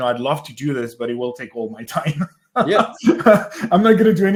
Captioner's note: laughs